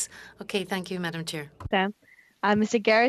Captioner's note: speaking French